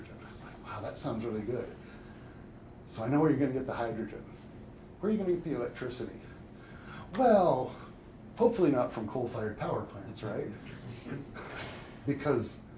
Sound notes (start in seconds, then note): 10.7 audience chuckles; 10.8 chuckles